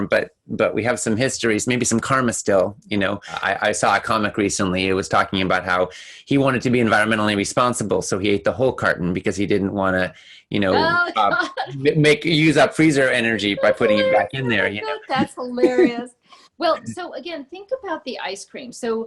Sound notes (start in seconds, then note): 10.5 laughing